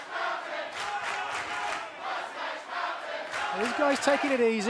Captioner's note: fans chanting